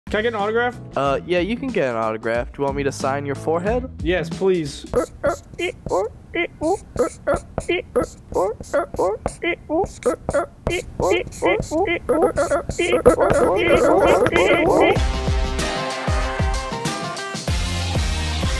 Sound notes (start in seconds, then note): 6.3 marker sounds